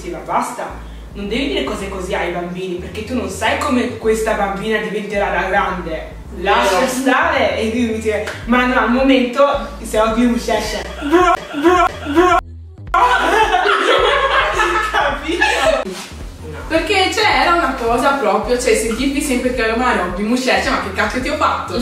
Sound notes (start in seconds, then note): 12.9 laughing